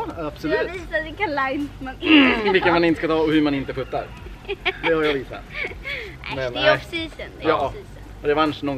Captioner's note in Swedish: laughing